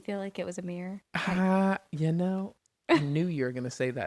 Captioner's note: laughs